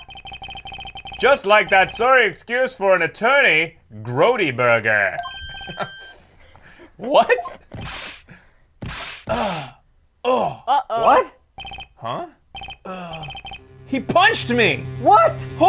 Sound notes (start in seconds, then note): 5.4 laughs; 7.7 bam